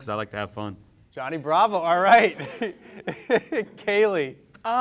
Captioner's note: laughs